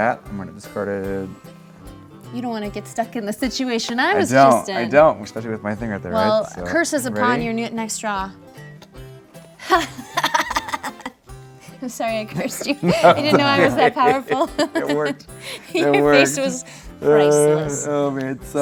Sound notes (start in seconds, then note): 9.6 laughs; 14.9 laughs